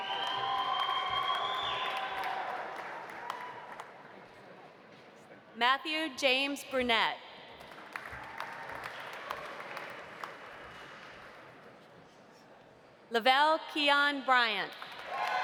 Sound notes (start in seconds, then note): 0.0 audience cheering; 0.0 audience applauding; 7.6 audience applauding